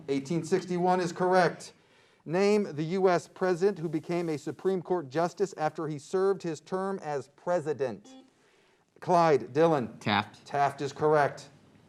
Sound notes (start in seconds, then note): 8.0 beep